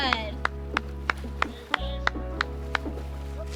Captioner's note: clapping